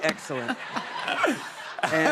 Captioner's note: laughter